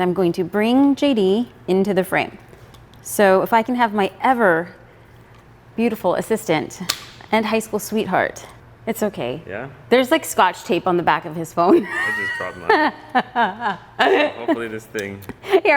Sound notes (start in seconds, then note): 11.7 laughs